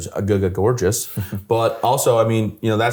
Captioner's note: chuckles